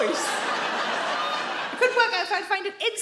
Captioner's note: audience laughing